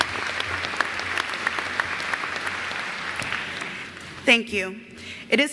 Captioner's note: applause